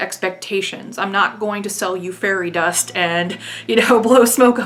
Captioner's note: laughing